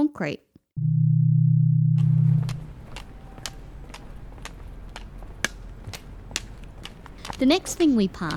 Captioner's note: cane tapping and footsteps